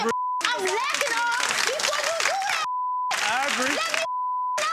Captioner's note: audience applauding; beep